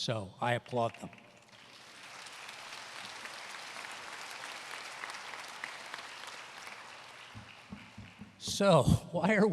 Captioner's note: applause